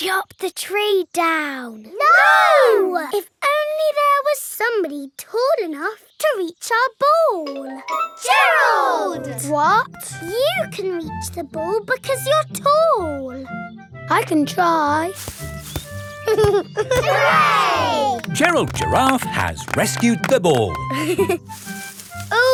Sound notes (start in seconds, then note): 15.1 leaves rustle; 16.2 giggling; 20.9 leaves rustling